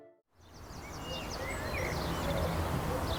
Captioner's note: birds chirping